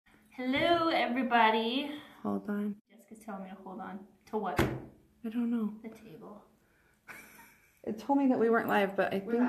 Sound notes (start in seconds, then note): 7.4 laughing